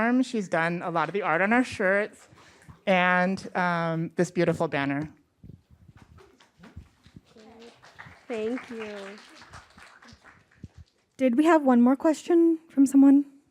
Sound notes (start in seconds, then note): 6.4 applause